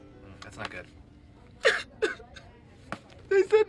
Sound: TROY sobs

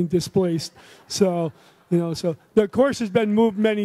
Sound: audience laughs

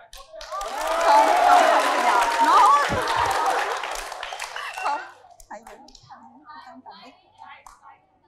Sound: clap

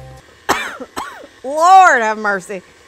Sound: coughs

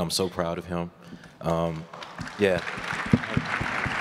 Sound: applause

